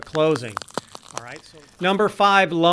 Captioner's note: crackling